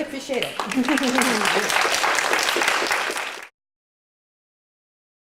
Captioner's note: applause